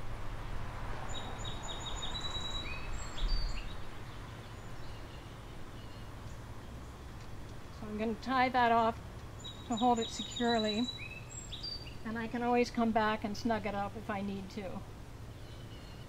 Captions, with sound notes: (chirping birds) So, I'm going to tie that off to hold it securely, and I can always come back and snug it up if I need to.